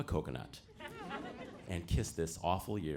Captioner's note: audience laughing